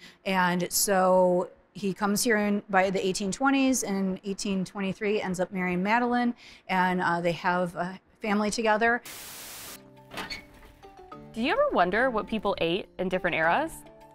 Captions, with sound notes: And so, he comes here by the 1820s, and 1823, ends up marrying Madeline, and they have a family together. [oven door squeaking] - Do you ever wonder what people ate in different eras?